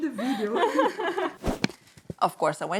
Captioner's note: laughs